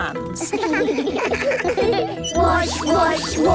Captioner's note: children giggling